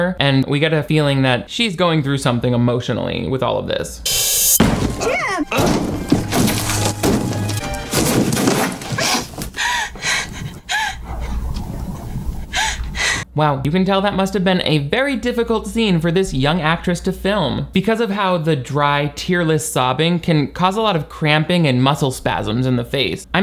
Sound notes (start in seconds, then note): 5.4 drywall ripping; 5.7 dramatic music; 9.0 hyperventilating